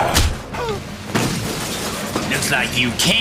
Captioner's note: roars; thud; gasps; crash